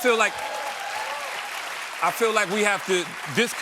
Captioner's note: applause